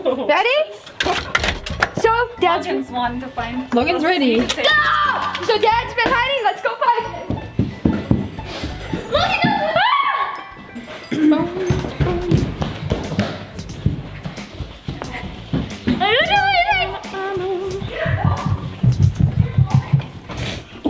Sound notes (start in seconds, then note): 0.3 laughing; 9.1 screams